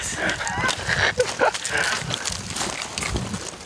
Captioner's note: laughing